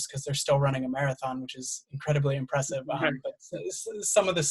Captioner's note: laughs